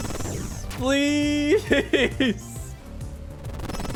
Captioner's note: laughs